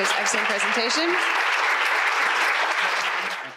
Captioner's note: audience applauds